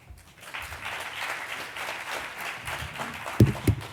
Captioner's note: applause